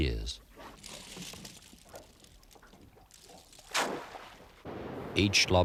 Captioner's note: splash